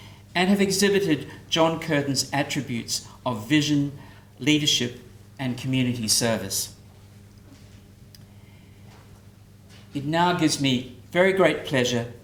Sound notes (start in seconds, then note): none